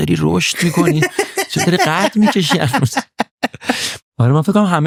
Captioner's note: laughs